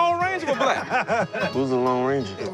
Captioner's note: group laughs